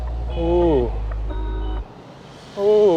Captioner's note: none